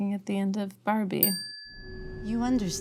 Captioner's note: bell ringing